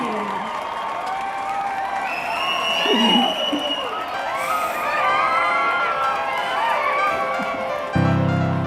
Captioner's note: cheering